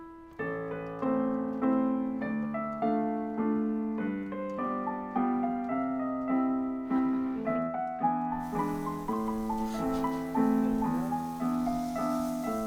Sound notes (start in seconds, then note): 0.2 piano playing; 8.4 grill sizzling